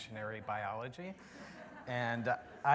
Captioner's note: laughter